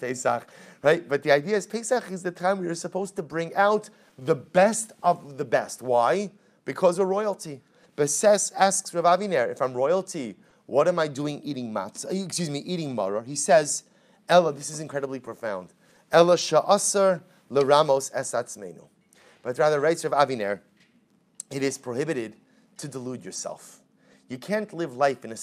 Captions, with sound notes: right, but the idea is Pesach is the time we were supposed to bring out the best of the best. Why? Because a royalty but says, asks Rav Avenir, if I'm royalty what am i doing eating matzo, excuse me, eating maror? He says, ella, this is incredibly profound [Hebrew] but rather writes Rav Aviner, it is prohibited to delude yourself. You can't live life in a